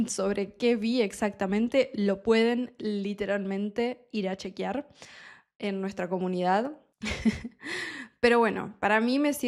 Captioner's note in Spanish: risas